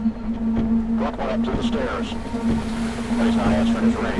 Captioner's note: officer On Radio